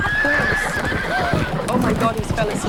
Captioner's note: horses neigh